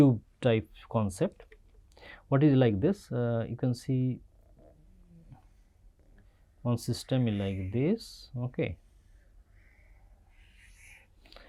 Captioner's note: pwf